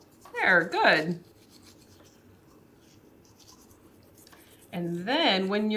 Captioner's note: toothbrush rustles softly